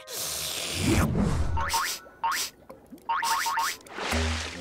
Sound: sniffing

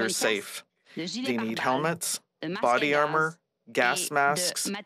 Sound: speaking French

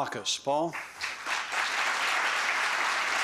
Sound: applause

